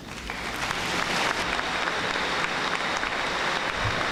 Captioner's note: audience applauding